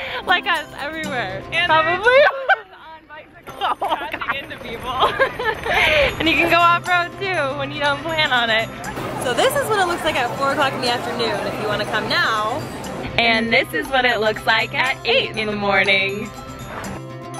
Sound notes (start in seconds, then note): 4.7 laughs